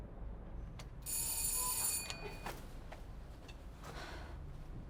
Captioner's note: doorbell rings